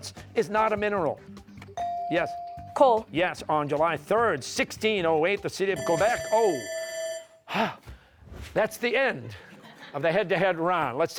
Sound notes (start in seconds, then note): 5.7 bell ringing; 7.1 exhales